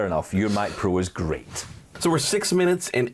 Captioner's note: air whooshing